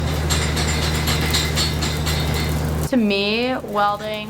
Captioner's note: metal banging